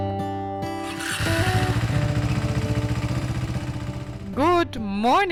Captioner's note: engine rumbling